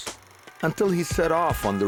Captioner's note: siren blaring